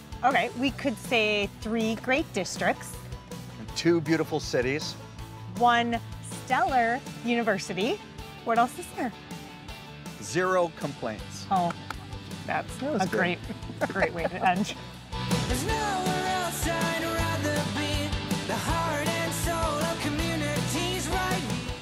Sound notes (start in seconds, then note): 11.6 claps; 12.9 laughs